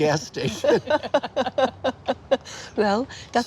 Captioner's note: laughing